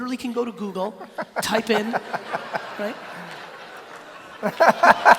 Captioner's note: laughing